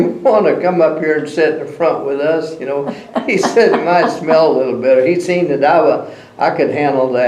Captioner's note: laughter